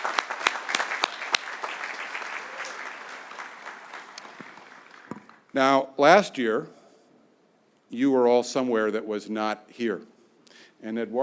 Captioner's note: applause